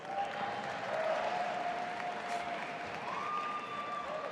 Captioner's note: audience applauding